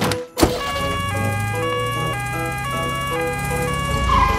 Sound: siren sounding

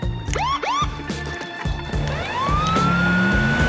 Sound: siren blaring

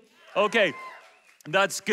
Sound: audience cheers

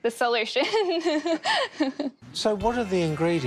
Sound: laughs

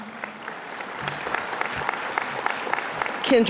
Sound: applause

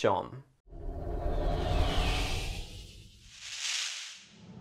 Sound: whooshing

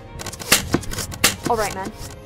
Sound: arrows thwip

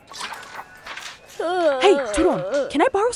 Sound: quirky music; Turon babbles

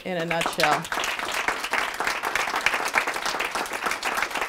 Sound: applause

